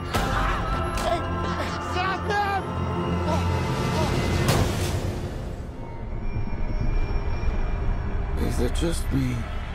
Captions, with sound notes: (screaming) Hey! Stop them! (thuds) (eerie music) Is it just me,